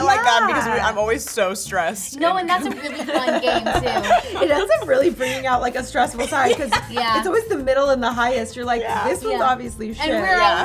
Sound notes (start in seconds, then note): 2.6 laugh; 5.9 laughing